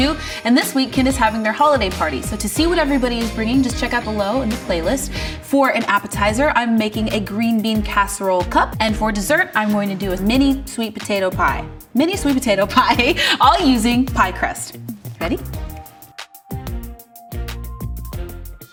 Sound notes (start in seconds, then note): 13.3 chuckles; 16.0 bright music